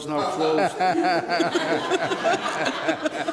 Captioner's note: laughter